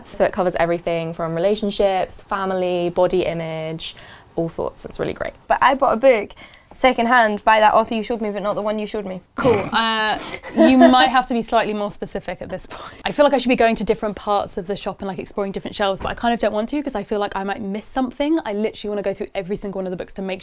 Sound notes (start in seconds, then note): 10.2 laughing